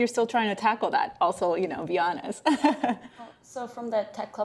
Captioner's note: laughs